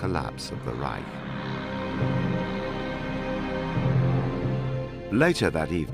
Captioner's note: car engine revving